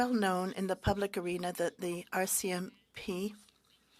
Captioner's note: speaking French